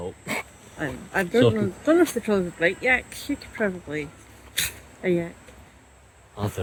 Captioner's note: punch noise